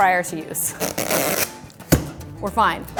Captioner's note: ripping; clunking